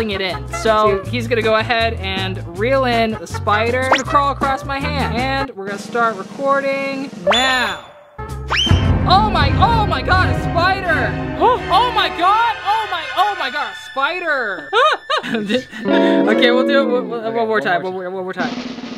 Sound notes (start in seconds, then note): 14.7 laughing